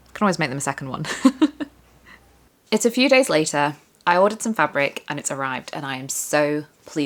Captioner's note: laughter